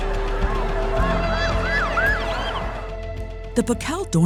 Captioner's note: police car siren